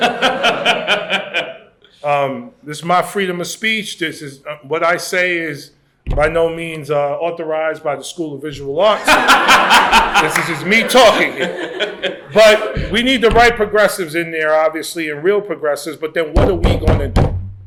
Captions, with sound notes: [LAUGHS] This is my freedom of speech. What I say is by no means authorized by the School of Visual Arts. [LAUGHTER] This is just me talking here. But we need the right progressives in there, obviously, and real progressives. But then what are we going to do?